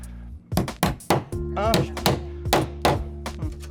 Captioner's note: hammering